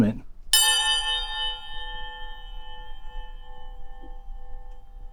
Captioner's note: metal clanking and ringing